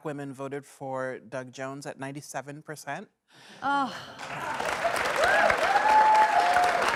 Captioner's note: applause